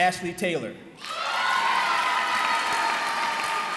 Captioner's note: cheering